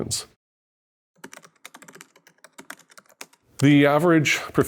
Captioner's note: keyboard tapping